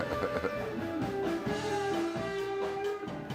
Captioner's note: laughter